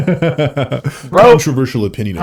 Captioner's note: laughing